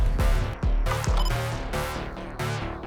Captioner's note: action music; recorder beep